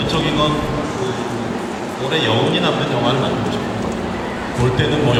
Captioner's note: speaking Korean